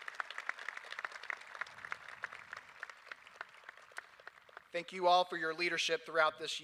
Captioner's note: applause